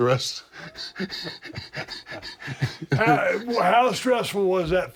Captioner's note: laugh